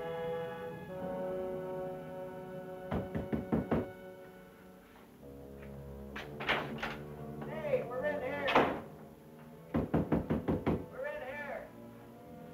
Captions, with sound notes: (banging on wall) - Hey we're in here. (banging on wall) We're in here.